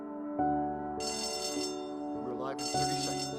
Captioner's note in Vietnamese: chuông reo